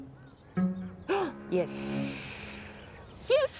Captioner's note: gasps